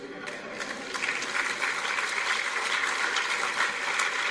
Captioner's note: applause